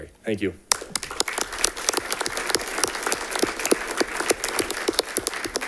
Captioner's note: audience clapping